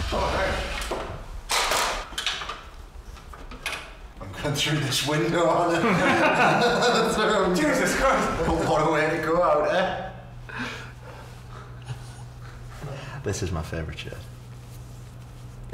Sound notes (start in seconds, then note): 5.6 laughter